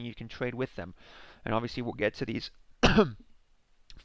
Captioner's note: coughs